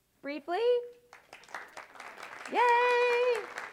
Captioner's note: applause